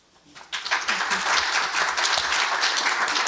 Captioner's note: applause